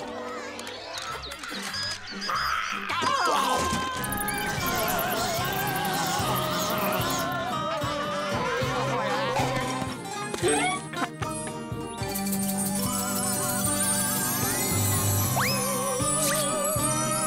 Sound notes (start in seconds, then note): 2.2 screaming